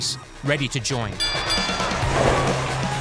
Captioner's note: bell dings